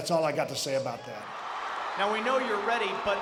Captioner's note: audience cheering